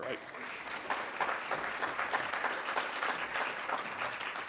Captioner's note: congregation clapping